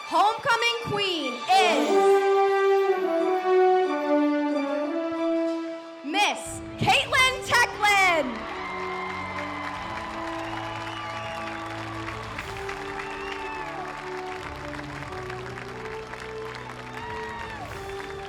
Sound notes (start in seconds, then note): 1.6 inspirational music; 8.5 audience cheers